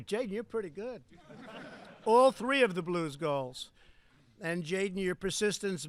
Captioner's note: laughter